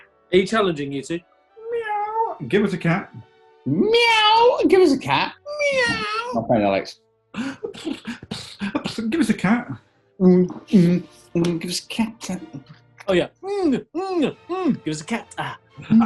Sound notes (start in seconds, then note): 7.3 purrs; 10.0 kick drum effect; 15.8 grunts